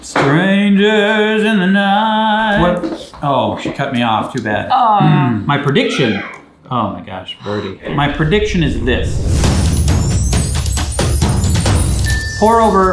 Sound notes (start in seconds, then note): 0.2 singing; 2.7 stops singing; 5.9 child yells; 9.6 exciting music; 12.0 bell dings